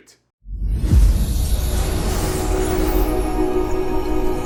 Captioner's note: logo whooshing